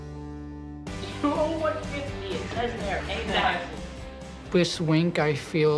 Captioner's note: laughs